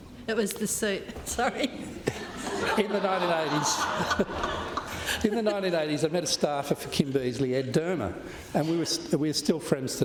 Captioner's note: laughter